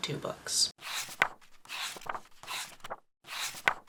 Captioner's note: pages turning